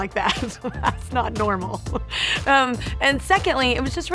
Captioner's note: laughing